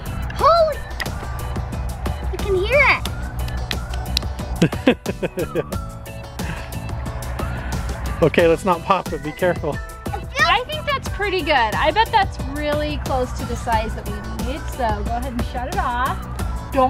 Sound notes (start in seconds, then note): 4.5 laughs